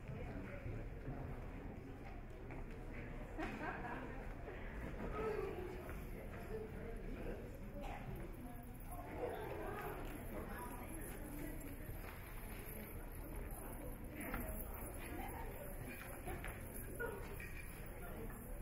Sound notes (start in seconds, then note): 3.5 audience chatter